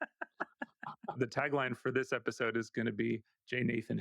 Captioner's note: laughing